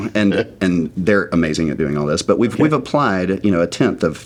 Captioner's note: laughing